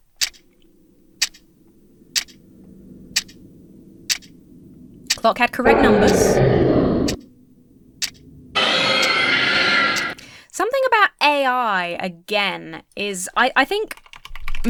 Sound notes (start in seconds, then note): 0.1 clock ticking; 5.6 monster roars; 8.5 monster screams